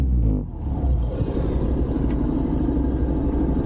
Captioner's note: traffic sounds